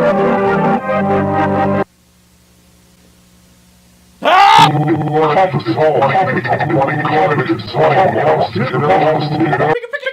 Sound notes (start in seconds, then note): 4.2 screams